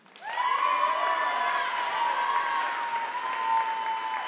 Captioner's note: audience applauding